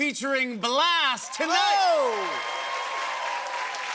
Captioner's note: cheers and applause